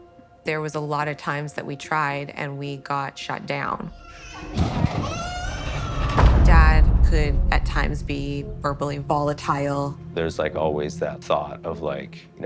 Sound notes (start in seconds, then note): 3.8 children yelling